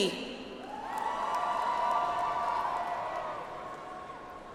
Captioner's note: audience applauds